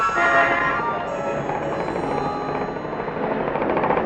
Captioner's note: traffic roars